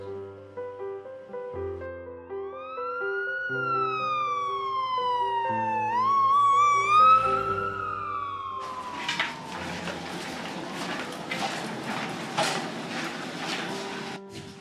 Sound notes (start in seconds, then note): 2.4 ambulance Sirens